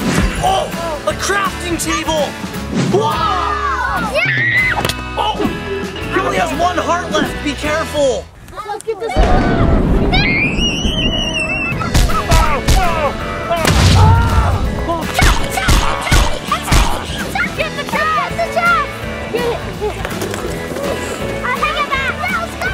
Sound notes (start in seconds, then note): 3.3 children cheer; 4.6 screams; 10.5 screams; 12.3 groans